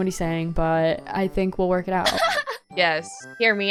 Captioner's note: laughs